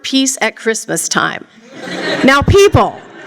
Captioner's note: laughter